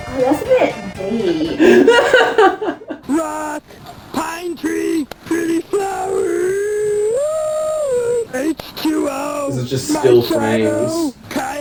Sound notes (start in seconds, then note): 1.8 still laughing; 3.6 silly voice